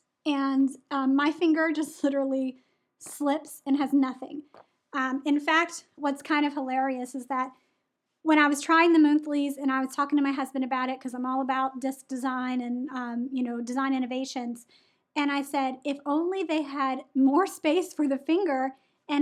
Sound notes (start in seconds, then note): none